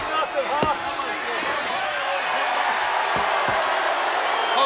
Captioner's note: audience jeering